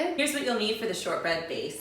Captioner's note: none